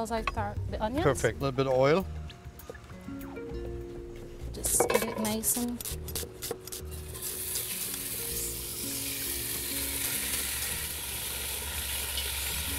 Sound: sizzling

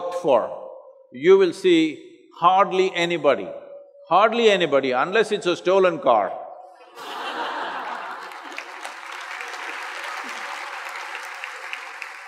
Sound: laughter/Applause

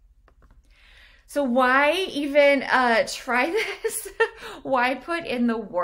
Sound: laughs

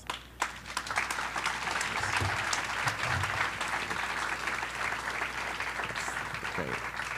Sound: applause

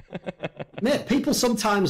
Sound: laughs

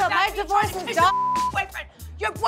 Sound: beep

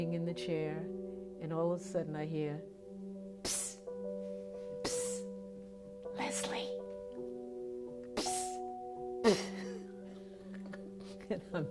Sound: laughter

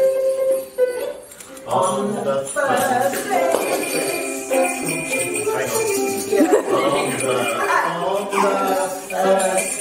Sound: laughs

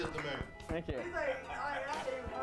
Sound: applause

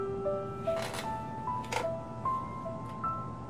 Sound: chair creaks

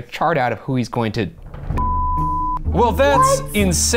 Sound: beep

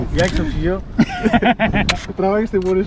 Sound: laughs

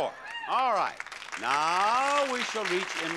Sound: audience applauding

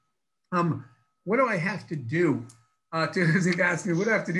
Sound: laughs

